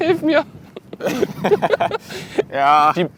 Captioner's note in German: Beide lachen